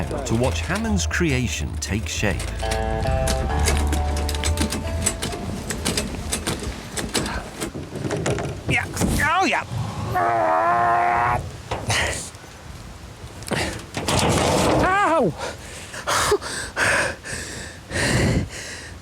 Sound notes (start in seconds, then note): 10.0 richard grunting; 16.0 richard whimpers